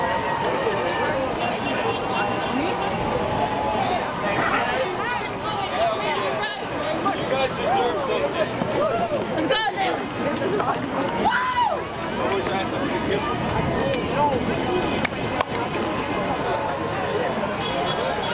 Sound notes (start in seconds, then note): 6.6 crowd noises; 10.5 excited chatter; 14.9 clap clap